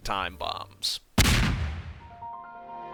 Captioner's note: kablooie!